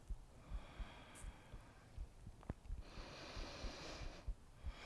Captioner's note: steady breathing